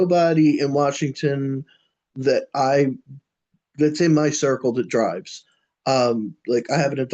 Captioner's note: laughs